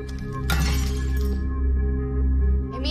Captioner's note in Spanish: Cristal roto